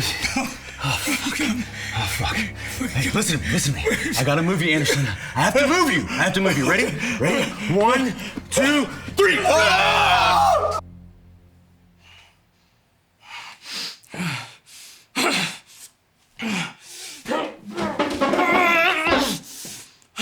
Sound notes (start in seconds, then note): 9.5 Brown and Anderson yelling; 13.8 Nazi groaning; 17.2 Nazi grunting